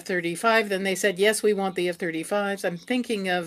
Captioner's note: speaking French